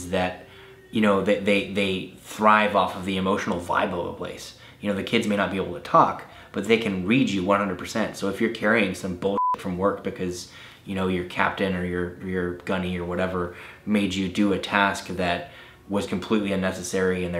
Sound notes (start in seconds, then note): 9.3 beep